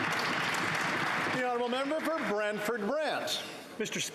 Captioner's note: applause